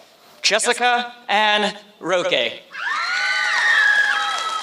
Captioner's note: applause